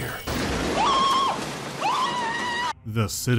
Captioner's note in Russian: крик Марва